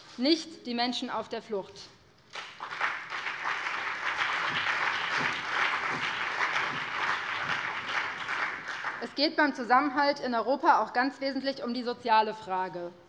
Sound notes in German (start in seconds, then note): 2.3 Beifall BÜNDNIS 90/DIE GRÜNEN und CDU